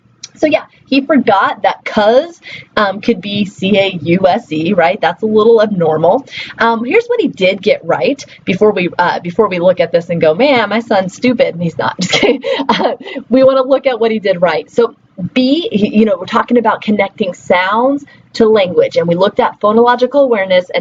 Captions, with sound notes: So yeah, he forgot that "cus" could be C-A-U-S-E, right? That's a little abnormal. Here's what he did get right before we look at this and go, "Man, my son's stupid." He's not. (laughing) We want to look at what he did right. So, 'B', you know, we're talking about connecting sounds to language, and we looked at phonological awareness, and